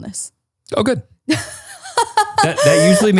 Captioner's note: laughs